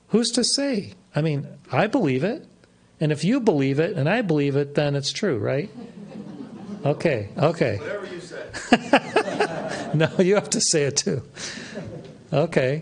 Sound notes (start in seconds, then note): 8.4 laughs